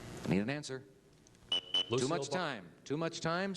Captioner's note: buzzer